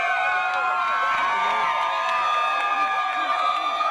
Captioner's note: people Cheering